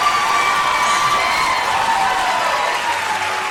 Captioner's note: cheering; applause